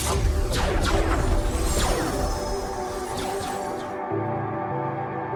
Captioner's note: electricity crackling; cannons blasting; calm ambient music